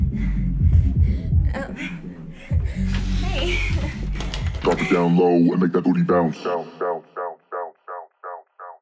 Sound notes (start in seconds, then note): 3.1 giggling